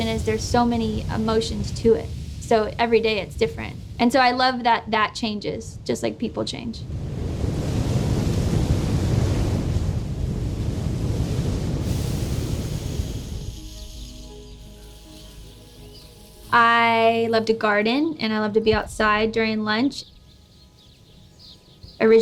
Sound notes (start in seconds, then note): 6.4 waves crashing; 12.0 water splashing